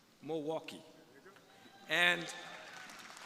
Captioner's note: crowd applauding